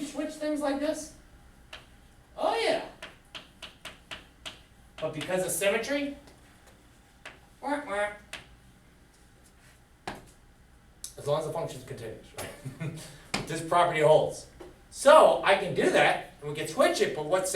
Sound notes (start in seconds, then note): 12.4 chuckles